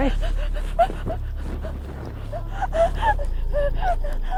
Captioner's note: Andrea gasping